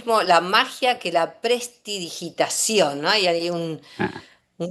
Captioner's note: snort